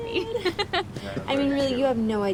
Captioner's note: Suzy laughs